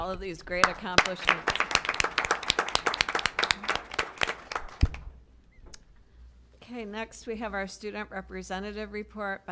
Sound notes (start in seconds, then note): 2.3 applause